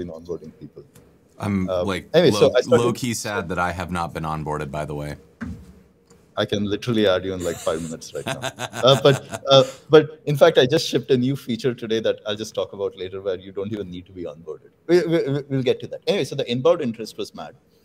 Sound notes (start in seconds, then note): 7.4 laughter